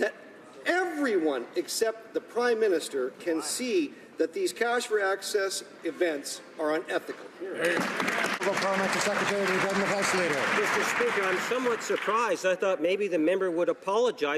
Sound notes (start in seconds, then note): 10.4 some Applause